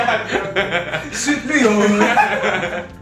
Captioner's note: mockingly